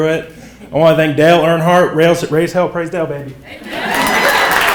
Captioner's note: people clapping